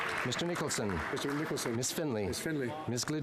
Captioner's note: speaking French